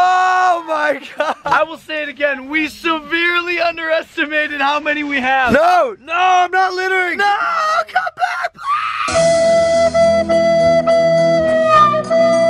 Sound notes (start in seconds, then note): 7.3 loud scream